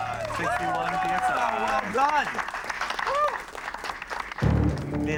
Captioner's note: cheers and applause; clapping